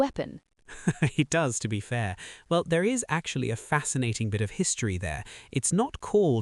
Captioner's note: laughs